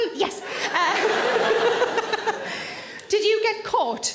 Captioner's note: Sarah laughs; audience laughs